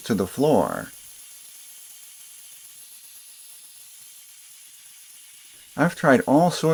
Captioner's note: hissing and scrubbing sounds